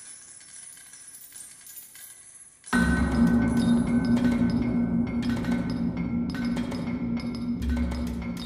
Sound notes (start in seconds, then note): 2.8 hammer sound